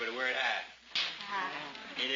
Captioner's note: multiple voices